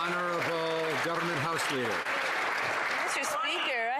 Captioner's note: some Applause